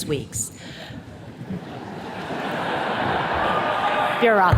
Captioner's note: attendees laughing